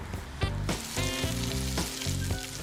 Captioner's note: grease sizzling